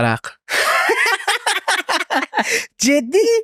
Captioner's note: laughs